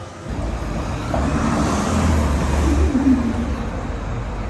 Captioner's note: cars humming